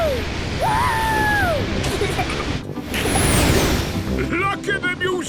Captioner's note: rocket thrusting